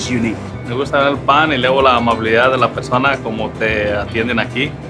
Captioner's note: speaking Spanish